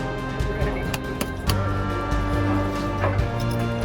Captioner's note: murmuring